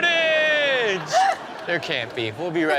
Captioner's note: all laugh